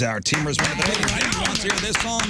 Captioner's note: clapping